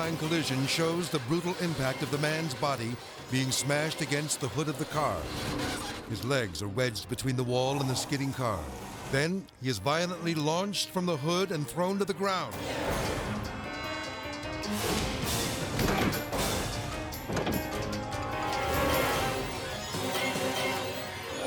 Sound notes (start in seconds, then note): 14.5 person shouts; 14.6 car bangs; 16.9 dramatic music